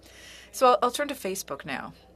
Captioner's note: speaking French